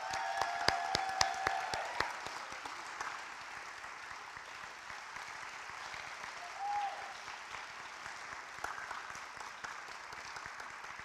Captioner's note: applause